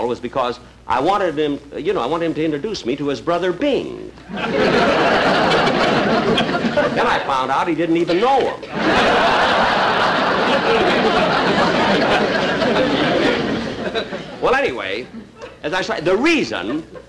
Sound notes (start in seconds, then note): 4.2 audience Laughing